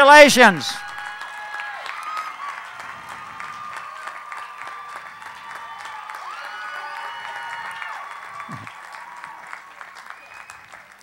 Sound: applause

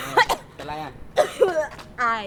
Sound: cough

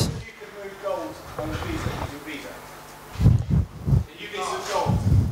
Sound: audience speaking

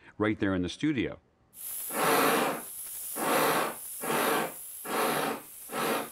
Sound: chuffing

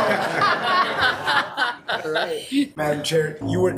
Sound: attendees laughing

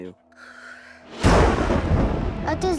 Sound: thunder crashes

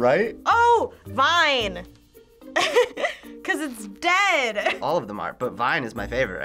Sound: laughs

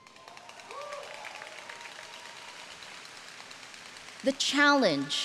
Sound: audience cheering

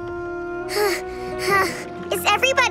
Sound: sighing

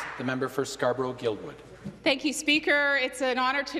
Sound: some Applause

